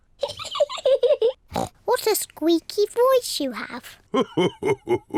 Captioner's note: laughs